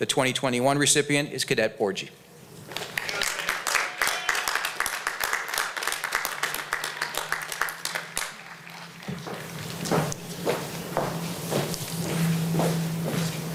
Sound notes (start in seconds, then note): 2.7 applause